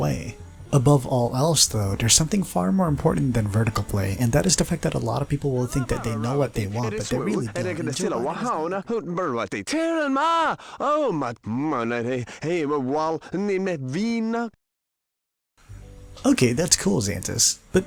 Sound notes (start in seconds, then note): 8.3 cut off by Simlish